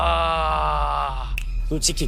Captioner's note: groaning